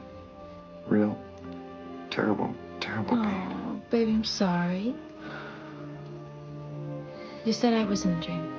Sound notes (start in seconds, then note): 5.2 inhales